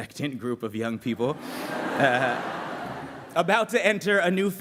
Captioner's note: laughter